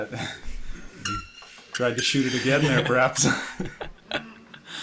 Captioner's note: laughing